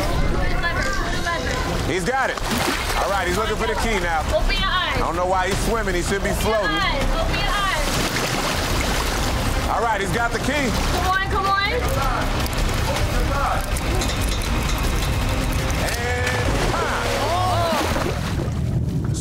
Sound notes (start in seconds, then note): 8.3 urgent music; 8.3 water splashing; 12.9 urgent music; 16.8 water splashing